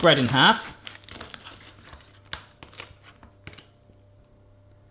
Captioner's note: crunching